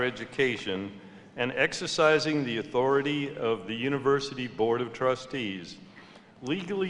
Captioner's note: none